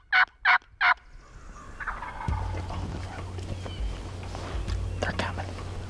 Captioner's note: whispering